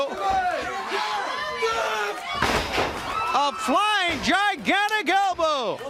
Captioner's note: crowd cheering